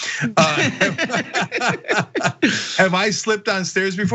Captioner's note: laugh